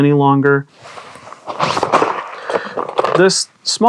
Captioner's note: camera rig pieces rustling